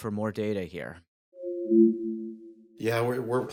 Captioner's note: device chiming